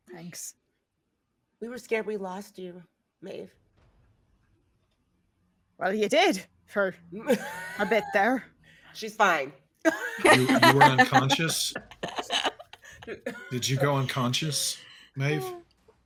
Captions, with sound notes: - Thanks. - We were scared we lost you, Maeve. - Well you did for a bit there. - She's fine. (laughs) - You were unconscious? Did you go unconscious Maeve?